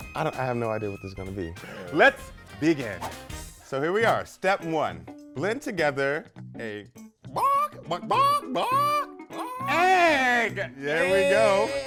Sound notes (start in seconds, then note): 7.4 chicken sound effect